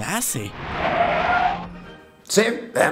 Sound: tires screech

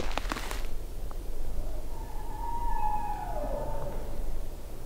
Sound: caller bugling

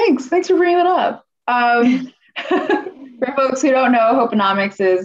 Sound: laughter

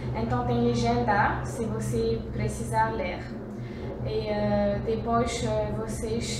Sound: in Portuguese AND English

